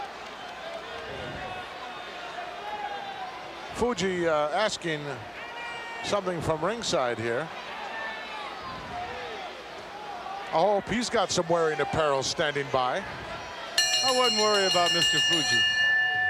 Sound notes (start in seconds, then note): 13.8 bell chimes